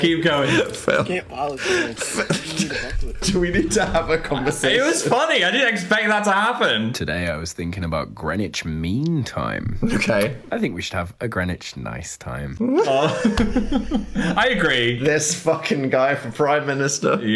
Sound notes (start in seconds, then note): 0.0 Dan laughs; 1.7 Dan laughs; 12.6 Dan and Phil laugh